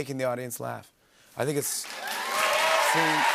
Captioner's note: cheers and applause